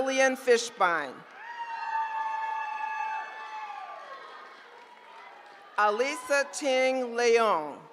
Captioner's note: applause